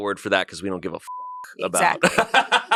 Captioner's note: beep; laughs